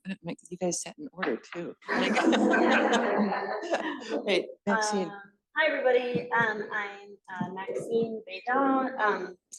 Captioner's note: laughter